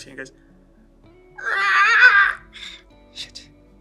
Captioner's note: screeches nervously